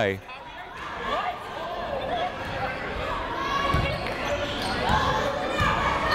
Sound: people shouting in the crowd

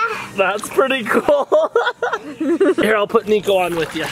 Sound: laughing

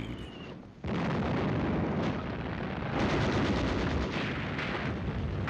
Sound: guns firing and bombs exploding

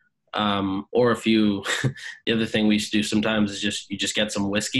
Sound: laughs

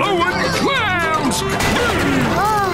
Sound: grunting

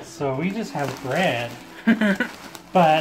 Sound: laughing

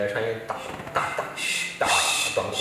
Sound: shhh

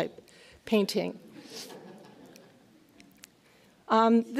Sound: laughs

